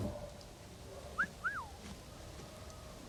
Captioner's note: whistling